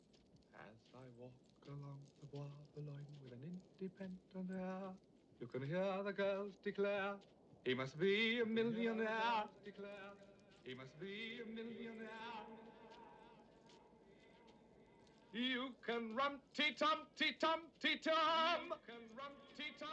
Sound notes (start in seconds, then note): 10.4 echoing